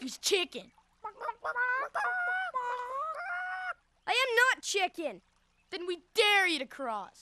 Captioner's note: clucking